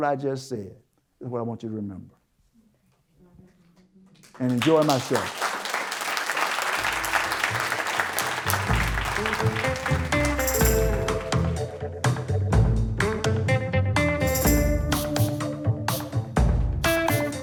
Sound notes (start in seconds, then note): 7.8 applause